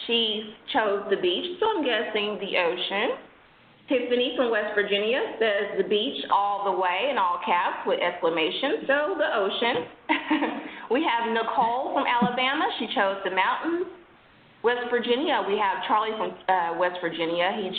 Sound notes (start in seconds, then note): 11.4 laughing